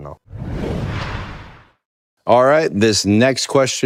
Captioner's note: logo whooshing